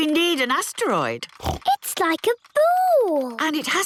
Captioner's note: snorts